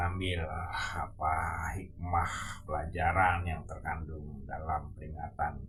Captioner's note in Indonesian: menghela napas; terkesiap